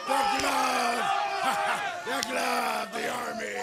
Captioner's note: crowd cheering